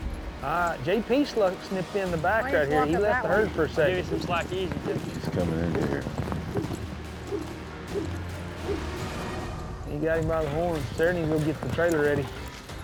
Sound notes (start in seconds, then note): 6.6 rope whirling